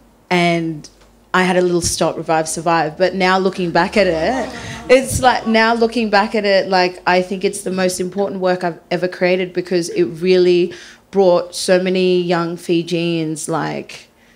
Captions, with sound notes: and I had a little 'stop, revive, survive'... But now looking back at it, (panellists chuckle) I think it's the most important work I've ever created because it really brought so many young Fijians,